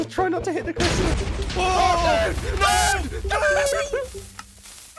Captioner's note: both screaming